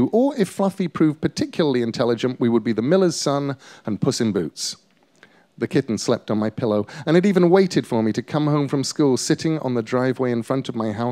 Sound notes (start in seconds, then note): none